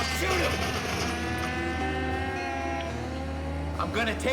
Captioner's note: gunshots blast